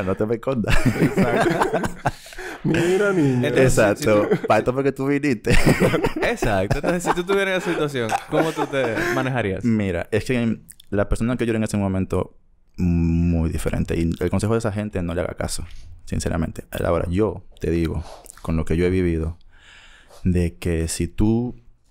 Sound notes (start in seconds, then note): 0.7 laughs; 5.9 laughs; 8.4 laughs